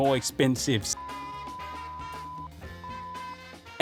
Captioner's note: beeping